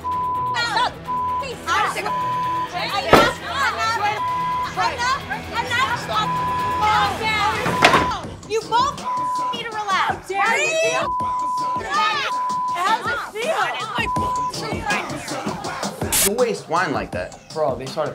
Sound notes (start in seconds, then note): 4.1 beep; 7.6 chair slamming; 11.0 beep; 13.9 hip hop music